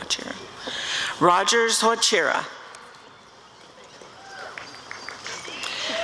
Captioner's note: applause and cheering